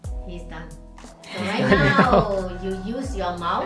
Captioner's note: laughs